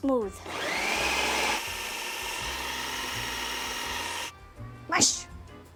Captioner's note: food processor whirring